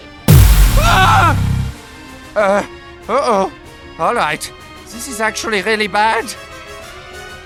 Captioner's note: exclaims